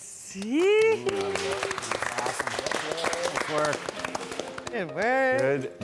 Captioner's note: group applauding